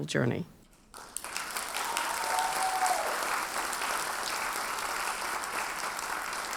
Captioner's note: audience cheers and applauds